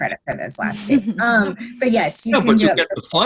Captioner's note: giggles